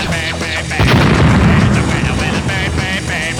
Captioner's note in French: boum